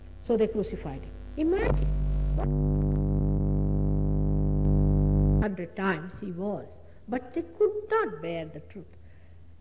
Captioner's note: noise in mp3